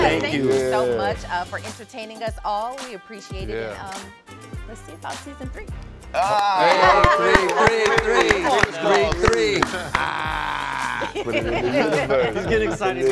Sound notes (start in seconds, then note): 6.2 all Exclaiming